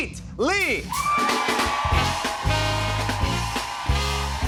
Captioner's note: cheers and applause